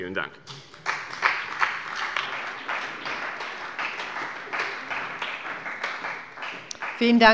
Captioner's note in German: Beifall bei dem BÜNDNIS 90/DIE GRÜNEN und der CDU